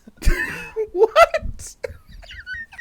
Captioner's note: wheezing